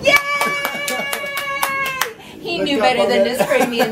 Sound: clapping

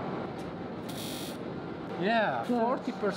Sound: buzz

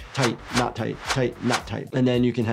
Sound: graphic whooshes

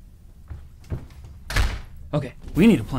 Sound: footsteps receding; door closing

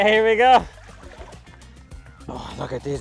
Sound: water sloshing

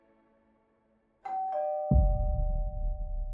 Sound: door bell rings

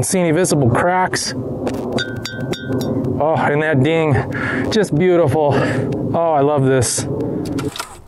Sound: ding sound

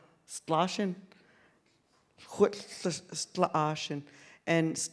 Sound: speaks in Sk1wx1wu7mesh

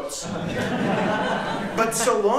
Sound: laughter

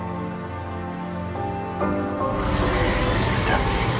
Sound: albertosaurus screeching

